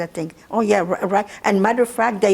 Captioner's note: mumbling